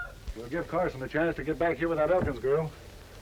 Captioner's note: rooster crowing